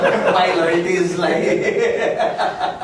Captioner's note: laughs